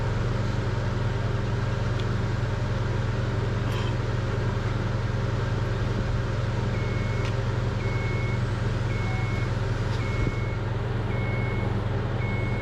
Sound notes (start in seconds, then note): 6.6 vehicle beeping; 6.6 vehicle humming